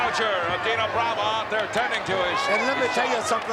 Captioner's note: crowd boos